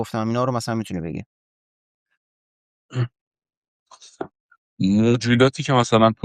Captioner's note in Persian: گلویش را صاف می‌کند